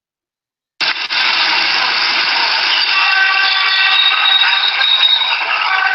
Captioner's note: traffic noise